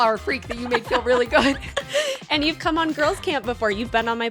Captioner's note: laughs